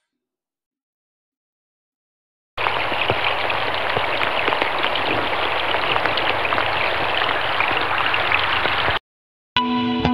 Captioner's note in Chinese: 掌聲